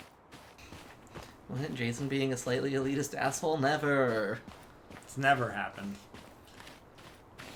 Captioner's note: sarcasm